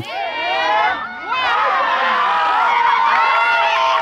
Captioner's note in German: Alle zählen auf Arabisch und jubeln